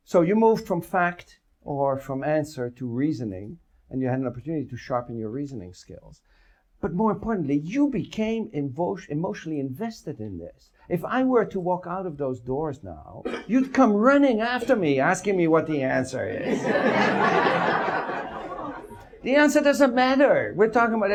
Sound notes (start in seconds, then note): 16.4 audience laughs